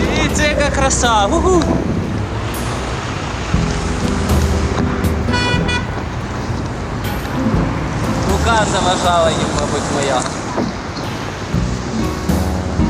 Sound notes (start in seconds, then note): 2.4 romantic music; 5.9 horn sound